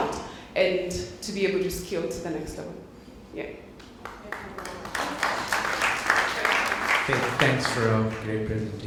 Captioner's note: applause